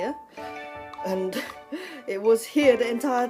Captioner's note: laughs